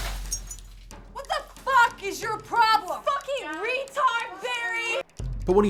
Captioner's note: crash